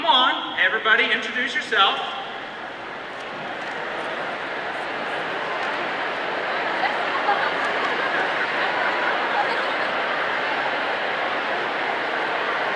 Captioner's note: audience chattering